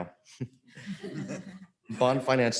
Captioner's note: audience laughs